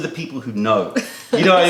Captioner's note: laughter